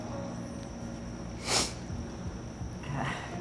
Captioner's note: sniffing